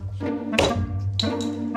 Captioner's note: slamming